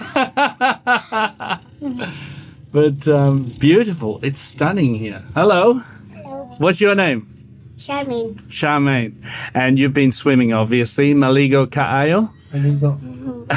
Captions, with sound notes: [Laughs] But it's beautiful. It's stunning here. Hello. Hello. What's your name? Charmaine. Charmaine. And you've been swimming obviously. Maligo, kaayo? I think so.